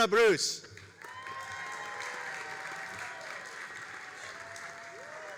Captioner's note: all applauding and cheering